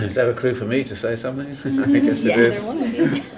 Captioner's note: laughing